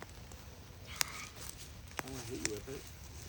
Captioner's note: wispers